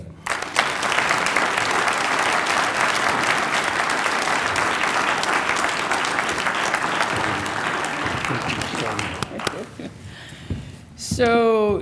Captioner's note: applause